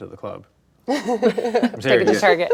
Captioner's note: laughs